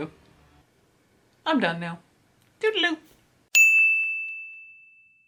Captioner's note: ding